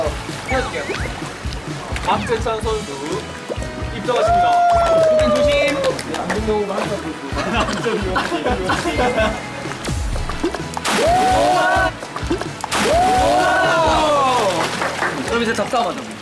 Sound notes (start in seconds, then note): 7.4 haha